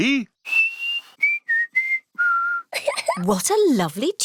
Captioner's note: whistles a tune; giggles